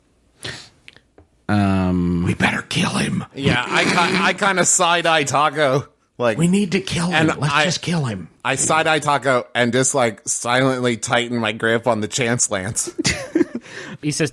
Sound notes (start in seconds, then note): 0.8 whispering; 3.5 snorts; 6.0 whispering